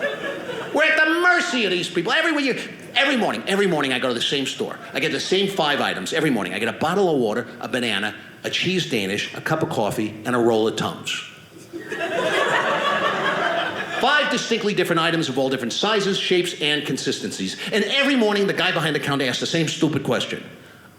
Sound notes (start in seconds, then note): 11.6 audience laughing